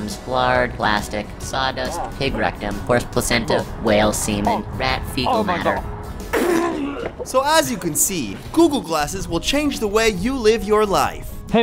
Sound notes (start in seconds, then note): 6.2 spits, retches